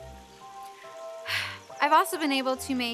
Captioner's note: sighs